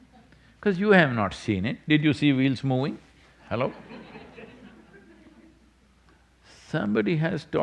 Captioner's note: few laugh